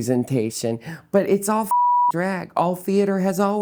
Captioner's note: beeping